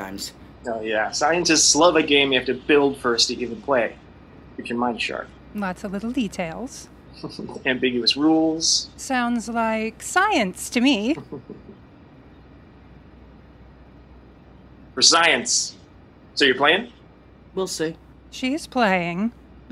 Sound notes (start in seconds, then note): 11.2 chuckle